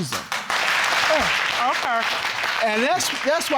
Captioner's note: audience clapping